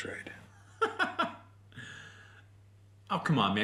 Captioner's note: incredulous laugh